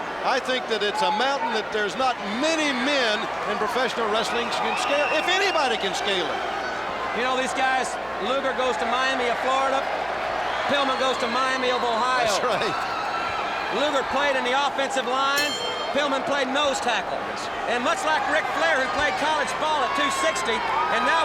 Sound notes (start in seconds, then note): 15.3 bell ringing